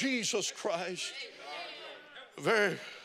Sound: congregation chatting

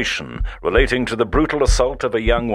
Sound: radio newsreader

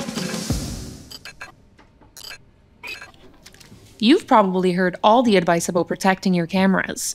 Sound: unsticking sound

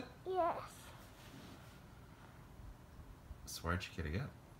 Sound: snoring softly

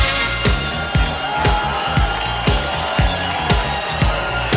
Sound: crowd cheering

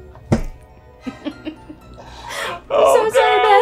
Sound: loud boom; chuckling; laughing

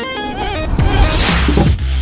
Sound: dramatic music; wood knocking on machine; dramatic music

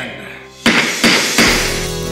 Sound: gavel banging; gentle music

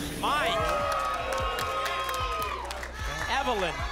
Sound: applause

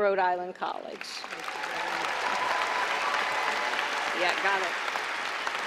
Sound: applause and cheering

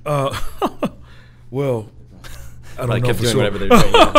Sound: chuckles

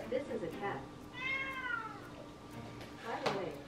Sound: cat meowing

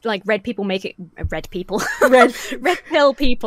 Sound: laughs

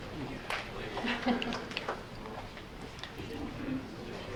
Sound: group chattering

